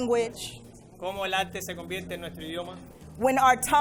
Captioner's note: interpreter speaking in foreign language